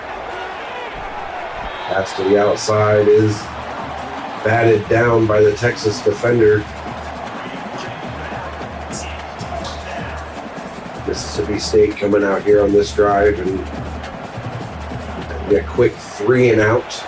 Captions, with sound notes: Pass to the outside is batted down by the Texas defender. [Crowd Noises] Mississippi State coming out here on this drive and a quick three and out.